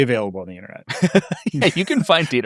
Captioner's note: laughing